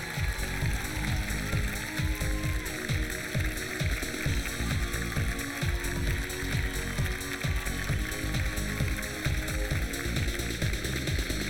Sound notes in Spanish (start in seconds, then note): 0.0 aplausos